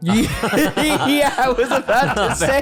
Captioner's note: all laughing